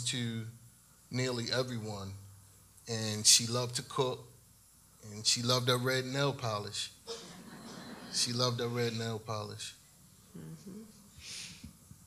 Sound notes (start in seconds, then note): 7.1 audience laughs